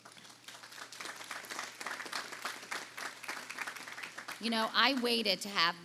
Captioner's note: audience applauding